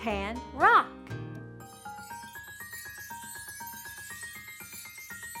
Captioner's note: chimes ring